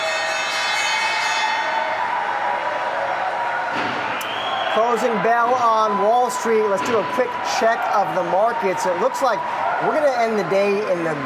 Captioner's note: bell ringing